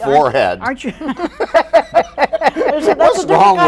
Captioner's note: all laughing